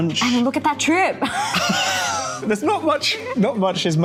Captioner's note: laughing